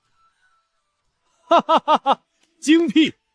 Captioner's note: laughs heartily